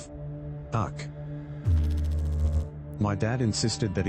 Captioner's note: electrical noise